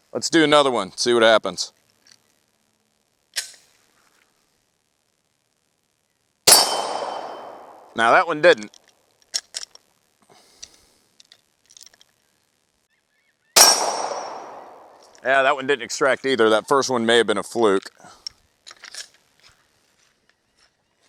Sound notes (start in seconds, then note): 6.4 gunshot; 13.6 gunshots